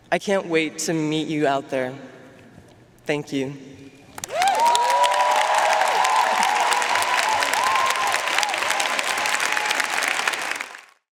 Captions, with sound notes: I can't wait to meet you out there, thank you. (audience cheering and applauding)